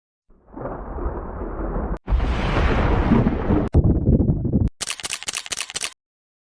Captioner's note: thunder rumbling; camera clicking